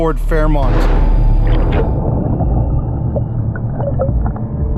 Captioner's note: water bubbling